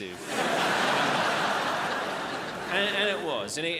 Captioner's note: crowd laughs